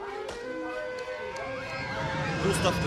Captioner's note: kids on ride screaming with excitement